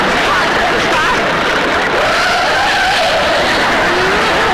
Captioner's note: heavy Screeching of Wheel Brake; audience Laughing